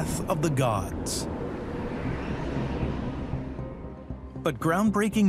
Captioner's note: gentle suspenseful music; air whooshes